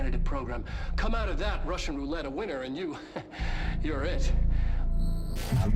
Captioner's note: chuckles